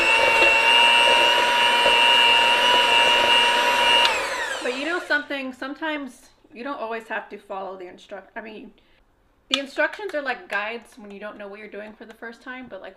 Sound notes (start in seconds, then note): 4.6 mixer stirring